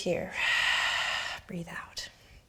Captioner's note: exhaling